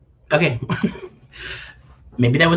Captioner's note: laughs